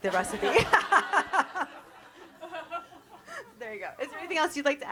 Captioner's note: everyone laughs